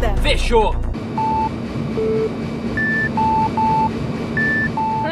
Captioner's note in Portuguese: sons e beeps do water sample puzzle